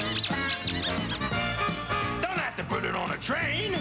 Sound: squeaking

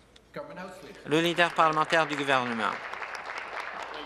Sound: applause

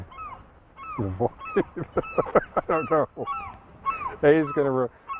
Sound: laughing

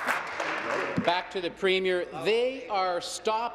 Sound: applause

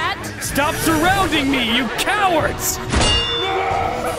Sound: laughing

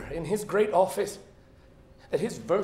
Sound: none

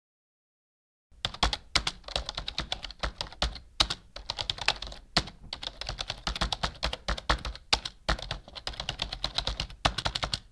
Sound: sound of keyboard typing

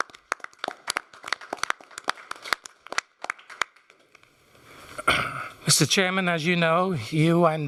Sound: applause

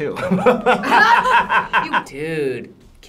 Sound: both laugh

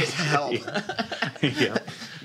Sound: laughter

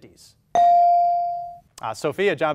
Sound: ding

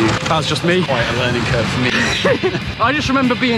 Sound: laughter

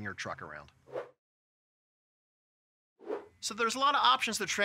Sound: screen whooshing

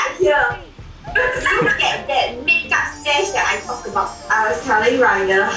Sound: laughs

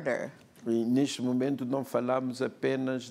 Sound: speaking portuguese

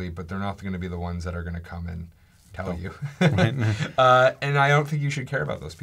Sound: laughs

